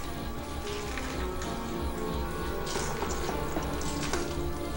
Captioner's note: footsteps shuffling